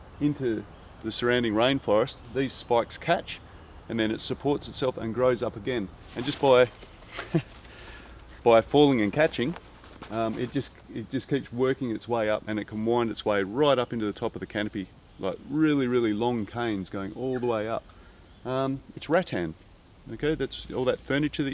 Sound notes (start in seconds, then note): 7.1 chuckles; 7.4 backpack whispers; 20.0 palm leaves rustle